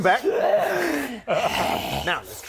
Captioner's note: hrrrggh